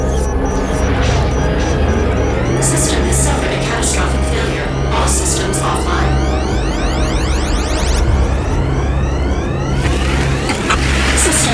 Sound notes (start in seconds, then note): 7.2 alarms blaring; 9.8 material rustles